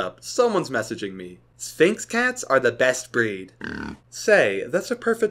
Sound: snort

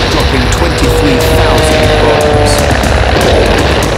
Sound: planes roaring; explosion booms; guns roaring

